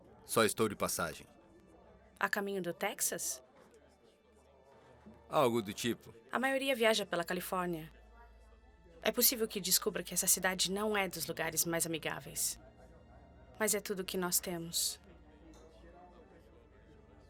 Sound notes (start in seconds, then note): none